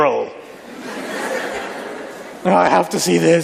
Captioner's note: laughter